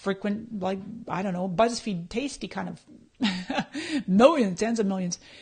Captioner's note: laughs